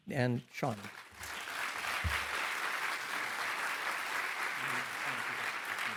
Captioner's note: participants applauding